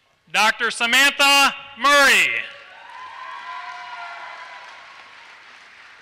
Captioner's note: applause